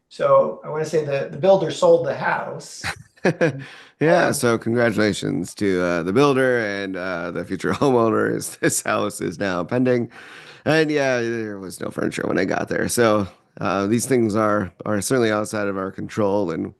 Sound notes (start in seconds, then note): 2.7 laughs